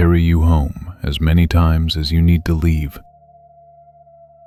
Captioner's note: whisper